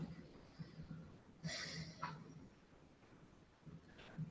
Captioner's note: woman sighs